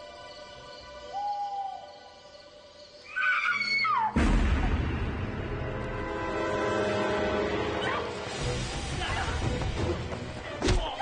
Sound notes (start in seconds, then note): 1.0 owl hoots; 3.0 woman screams; 4.1 loud bang